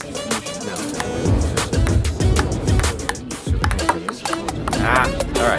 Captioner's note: upbeat music; ping pong ball bouncing